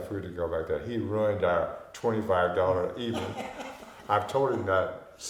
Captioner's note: laughing